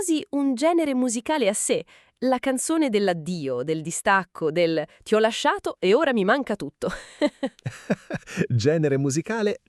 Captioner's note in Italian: risate